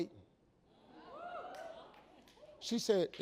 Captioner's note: audience gasps